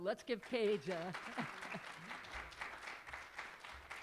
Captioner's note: applause